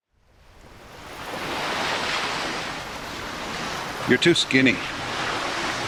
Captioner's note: waves crashing